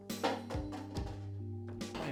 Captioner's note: thud